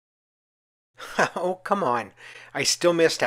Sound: laughs

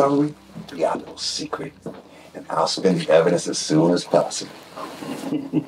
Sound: laughs

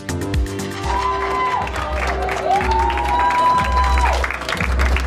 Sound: audience applauding

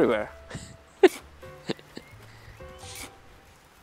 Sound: laughs

